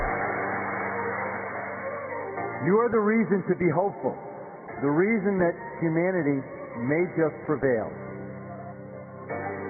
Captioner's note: cheers and applause